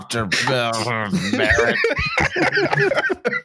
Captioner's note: grumbles; laughter